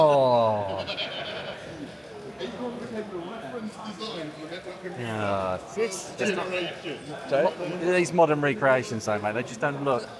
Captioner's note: laughing